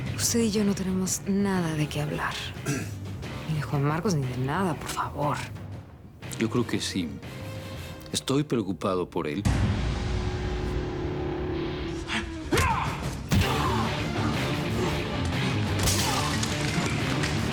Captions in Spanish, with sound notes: >>USTED Y YO NO TENEMOS NADA DE QUÉ HABLAR NI DE JUAN MARCOS NI DE NADA, POR FAVOR. >>YO CREO QUE SÍ, ESTOY PREOCUPADO POR ÉL. [Gritos]